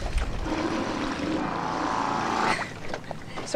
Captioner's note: boat motor revs; laughs